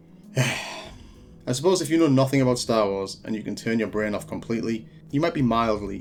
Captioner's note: sigh